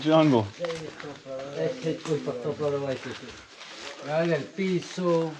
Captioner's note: speaking in foreign language